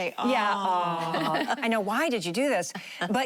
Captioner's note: laughing